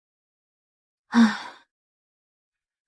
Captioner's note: sigh